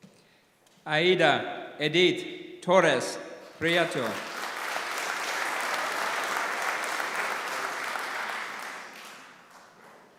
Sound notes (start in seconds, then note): 3.5 applause